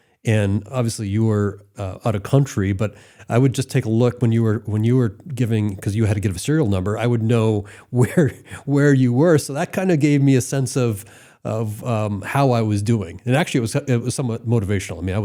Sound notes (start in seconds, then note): 8.9 laughs